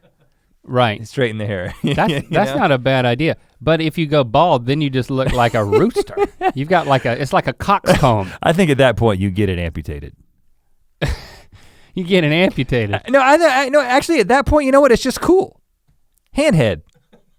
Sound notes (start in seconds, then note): 1.7 chuckles; 11.0 scoffs